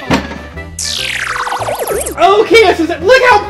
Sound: metallic swooshing

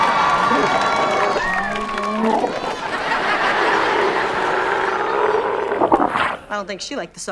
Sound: cheering; groaning

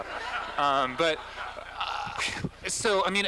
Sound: laughter

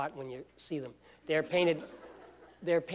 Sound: laughter

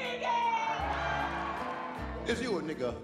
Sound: audience cheers

